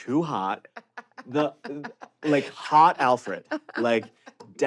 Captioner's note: laughing